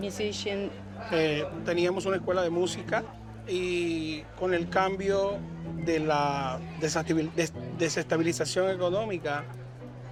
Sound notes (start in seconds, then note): none